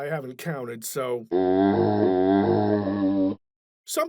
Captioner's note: zombie groan